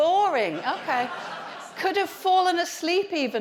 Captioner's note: audience laughs